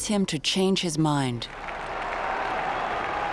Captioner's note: applause and cheering